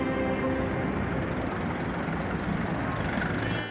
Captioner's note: engines rumbling